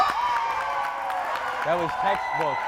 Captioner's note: crowd cheering